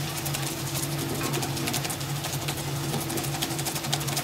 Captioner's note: humming, rustling